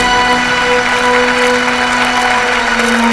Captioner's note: Cameras clicking